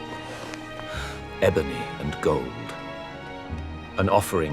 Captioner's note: footsteps crunching; rocks thudding